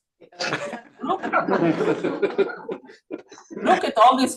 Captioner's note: laughter